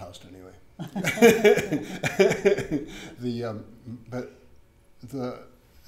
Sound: John and Katie laughing

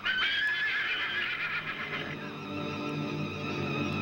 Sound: horses Whinnying

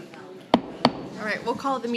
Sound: gavel taps

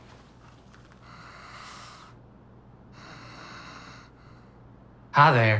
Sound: heavy breathing

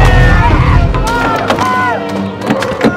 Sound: murmuring

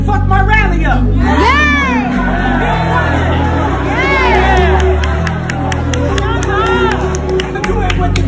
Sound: audience Cheers

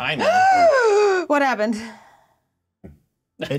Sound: gasps

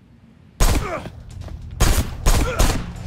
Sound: enemy grunting; shots firing

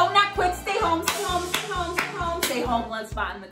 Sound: clapping

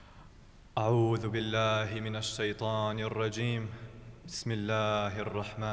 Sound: speaking in foreign language

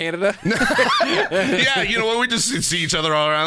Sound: both laugh

